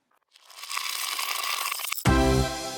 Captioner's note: dice falling